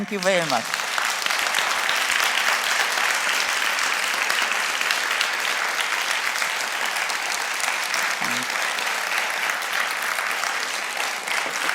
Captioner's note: applause